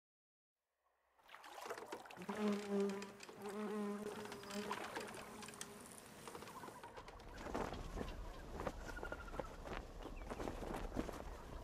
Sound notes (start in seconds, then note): 1.2 water lapping; 2.2 bug buzzing; 7.9 birds chirping